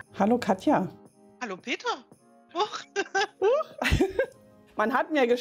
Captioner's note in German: lacht